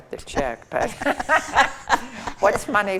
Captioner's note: group laughs